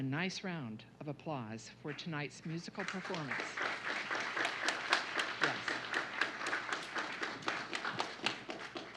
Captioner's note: applause